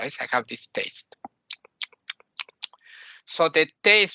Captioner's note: champing sounds